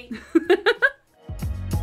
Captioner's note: laughing; mellow pop music